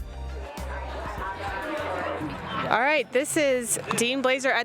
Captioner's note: chatters